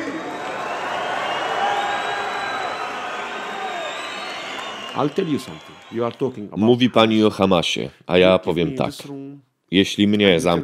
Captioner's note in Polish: Aplauz